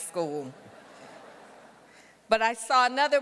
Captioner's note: audience laughter